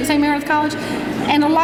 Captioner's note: laughing